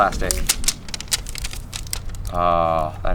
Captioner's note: plastic rustling